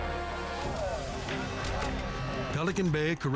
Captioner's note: tense music; prisoners chatter